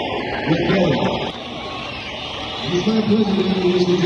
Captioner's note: crowd cheering